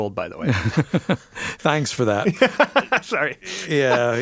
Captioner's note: laughs